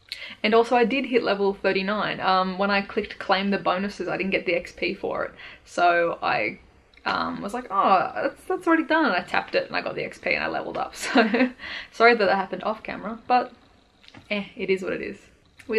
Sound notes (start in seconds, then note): 11.0 laughs